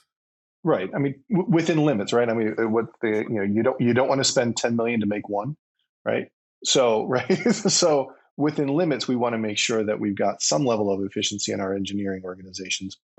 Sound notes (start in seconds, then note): 7.0 laughs